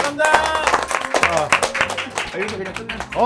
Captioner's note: applause